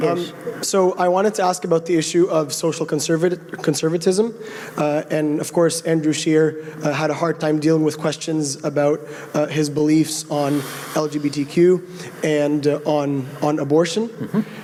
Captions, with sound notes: - [Voiceover] So I wanted to ask about the issue of social conservatism, and of course Andrew Scheer had a hard time dealing with questions about his beliefs on LGBTQ and on abortion,